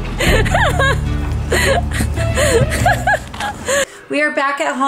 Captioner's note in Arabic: يضحك